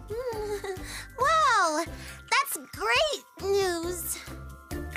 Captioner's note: exclaiming